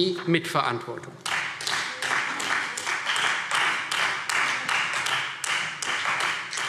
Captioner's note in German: Beifall Freie Demokraten